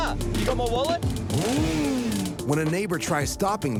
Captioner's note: motorcycle engine revving